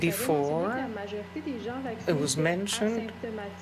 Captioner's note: speaking French